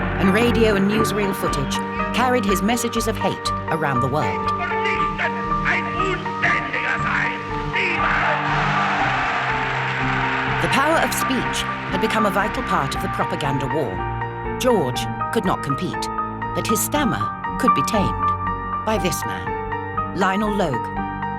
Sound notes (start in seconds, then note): 5.0 Hitler speaking in German